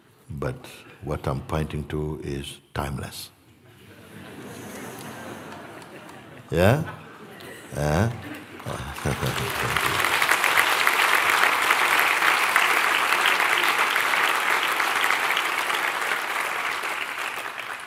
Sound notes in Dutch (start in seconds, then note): 3.7 gelach; 9.1 Applaus